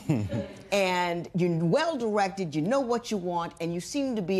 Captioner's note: laughter